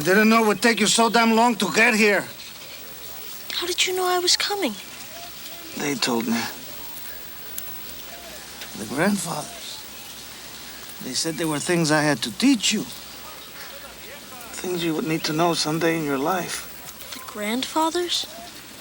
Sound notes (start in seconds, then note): 7.4 Ned gasps